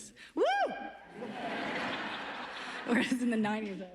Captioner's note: laughs